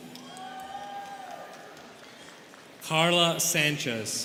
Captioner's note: students cheering